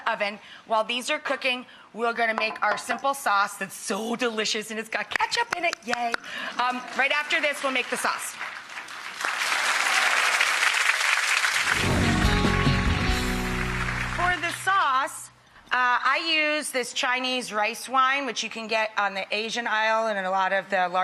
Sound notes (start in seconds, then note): 9.0 audience clapping